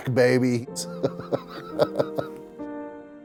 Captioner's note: laughing